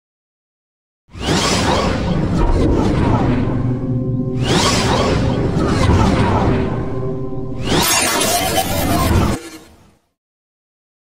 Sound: sound of morphing

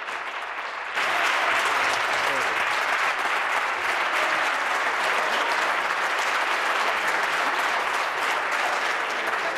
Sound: applause

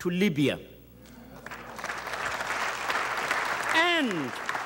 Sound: audience applauds

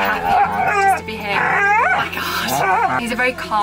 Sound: River barking & growling loudly

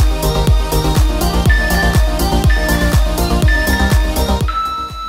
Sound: alarm beeping

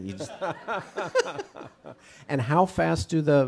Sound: audience, chuckle

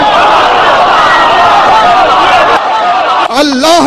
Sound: audience cheers and shouts enthusiastically

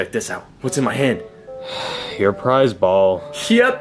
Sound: Mario sighing

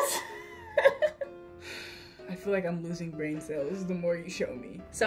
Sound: laughs; sighs

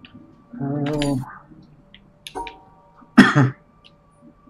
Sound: coughs

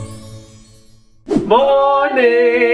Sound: scene whooshing

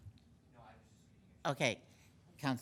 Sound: speaking faintly

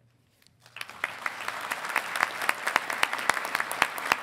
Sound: audience applauding

